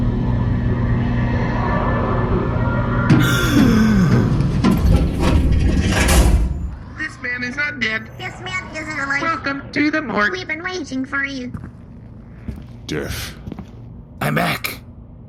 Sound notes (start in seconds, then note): 3.2 Derf gasps, awakening; 4.8 mortuary freezer clanks open